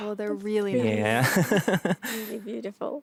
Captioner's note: laughs